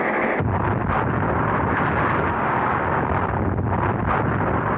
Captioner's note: explosion rumbles